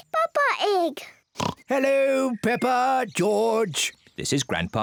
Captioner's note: oinks